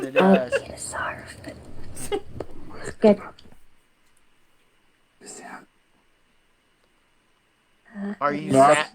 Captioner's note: whispering